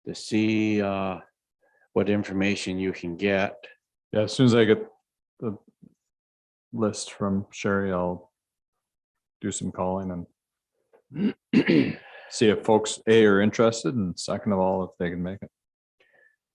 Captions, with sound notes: to see, what information you can get. - Yeah as soon as I get the list from Sherry, I'll do some calling and (clears voice) see if folks are interested and second of all if they can make it.